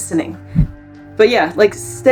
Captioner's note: background music; sound effect